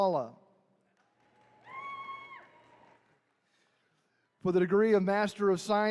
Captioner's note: attendees cheering